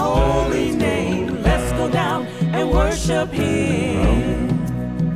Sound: humm

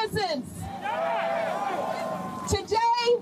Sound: crowd cheering, shouting

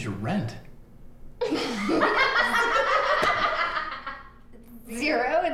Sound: laughing

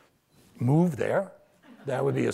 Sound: audience laughs

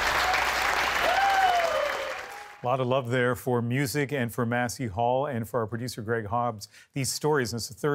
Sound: applause

